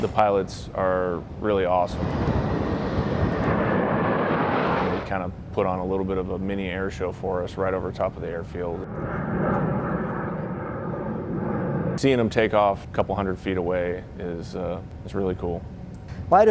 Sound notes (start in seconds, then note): 1.8 planes roaring; 8.5 plane roaring